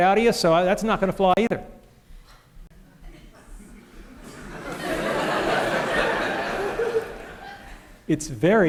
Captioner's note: laughter